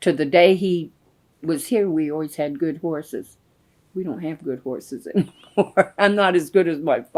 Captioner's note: laughs